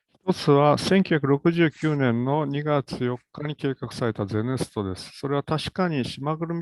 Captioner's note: speaks in Japanese